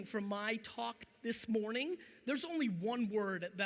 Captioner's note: none